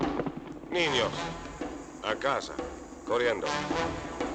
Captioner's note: speaking in Spanish